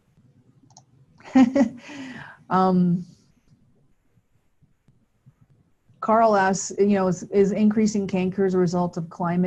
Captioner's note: chuckles